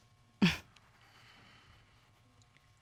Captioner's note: chuckles